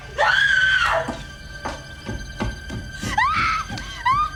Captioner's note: Laurie screaming